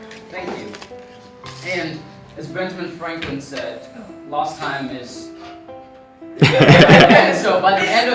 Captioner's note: laughter